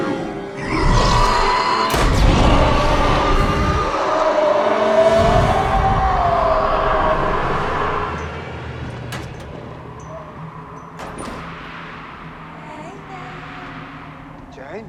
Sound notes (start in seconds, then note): 0.4 The Patriarch shrieking; 1.8 shot firing; 8.0 flag anchor clanging; 8.0 wind whistling